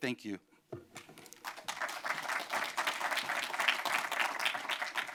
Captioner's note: applause